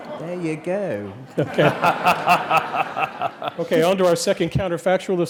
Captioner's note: laugh